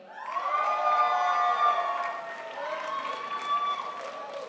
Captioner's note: crowd applauds